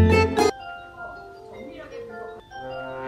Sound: doorbell ringing

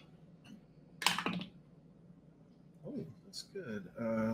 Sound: dice clattering

